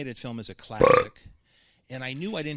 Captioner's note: belches